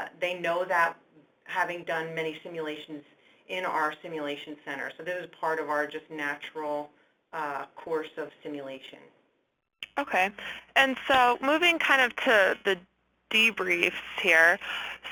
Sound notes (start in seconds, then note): 10.2 voiceover